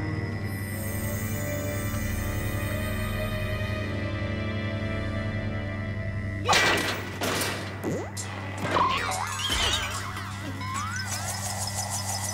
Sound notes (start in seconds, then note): 6.4 clank; 6.5 spring pings; 9.1 boing, boing